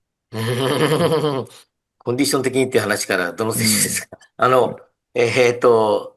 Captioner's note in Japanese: 笑い